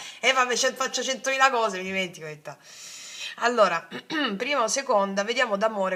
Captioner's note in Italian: schiarire la voce